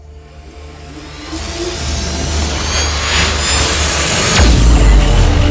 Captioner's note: electrifying sound effects